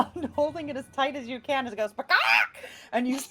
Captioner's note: squawking